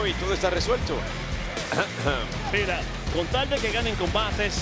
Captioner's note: cough